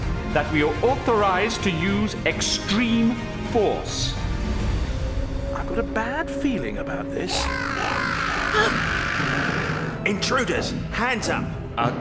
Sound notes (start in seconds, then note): 7.2 metallic scream